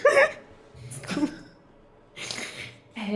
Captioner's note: laughing